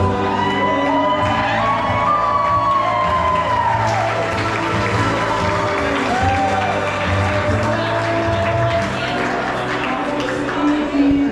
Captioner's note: applause